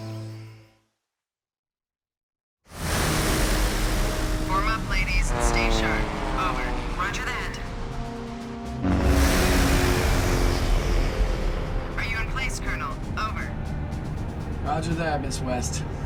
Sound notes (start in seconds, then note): 9.2 propellers whirring